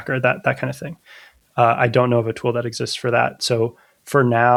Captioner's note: uh